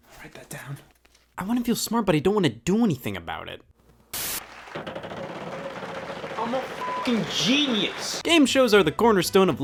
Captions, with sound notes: - Write that down. I wanna to feel smart but I don't wanna do anything about it. (wheel turning) - I'm a (beep) genius. Game shows are the cornerstone